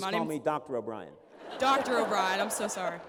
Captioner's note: laughter